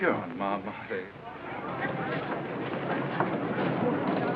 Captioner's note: chatter